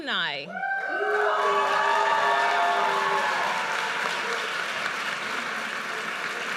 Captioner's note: audience cheers and applauds